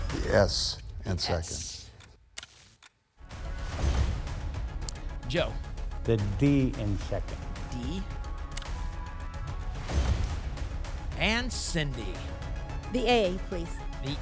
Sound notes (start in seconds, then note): 3.6 whoosh; 3.6 thump; 9.7 thump; 9.8 whoosh